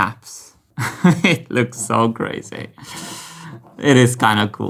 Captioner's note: laughs